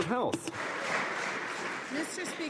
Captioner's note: some Applause